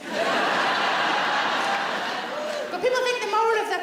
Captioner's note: audience laughs